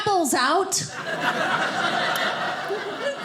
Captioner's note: audience laughing